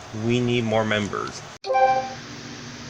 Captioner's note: Shauna's Phone Chiming